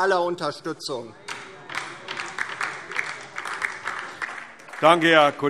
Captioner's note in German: Beifall DIE LINKE - Lachen AfD - Zurufe